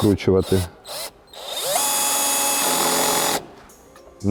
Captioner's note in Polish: dźwięk wkrętarki